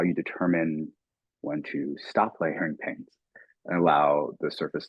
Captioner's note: chuckling